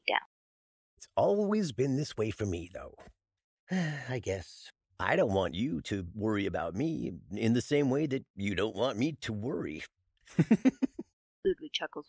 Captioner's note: sighs